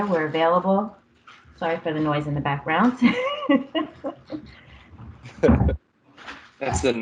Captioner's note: laughter